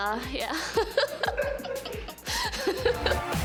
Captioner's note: giggles